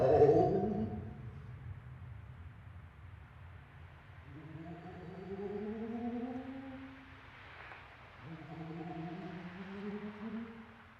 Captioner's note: thunder and ghost sounds